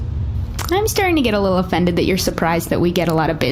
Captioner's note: quietly